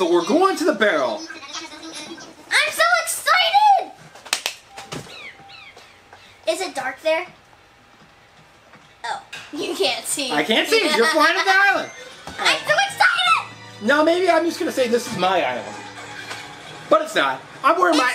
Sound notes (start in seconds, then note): 4.3 claps; 10.0 laughs